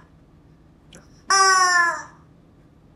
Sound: squawk

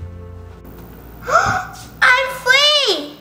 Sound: gasps

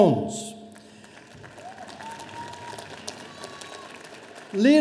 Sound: audience applauding

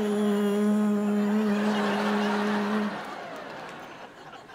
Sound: humming

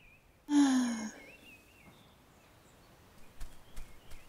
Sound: sighs

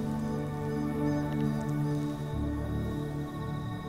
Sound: bird calls, insects chirp

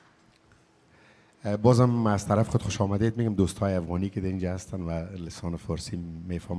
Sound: speaking in a language other than English

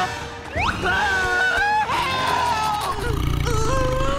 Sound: screaming

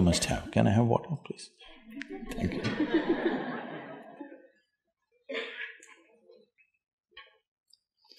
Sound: laughter

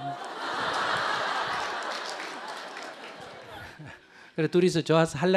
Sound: audience Laughter

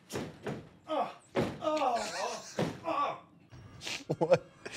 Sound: stomping; groaning

